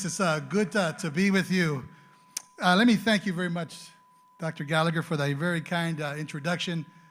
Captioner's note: speaking Spanish